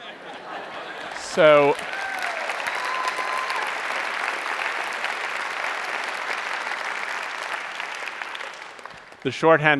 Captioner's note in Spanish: Aplauso